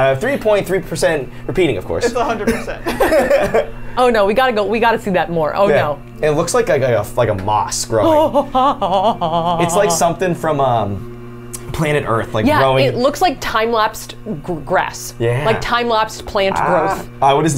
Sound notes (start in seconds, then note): 2.1 laughs; 8.1 Safiya yells